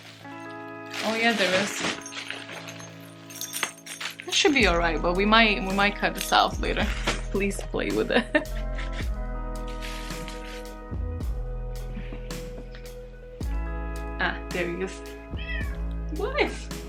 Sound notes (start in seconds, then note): 9.6 crinkle noises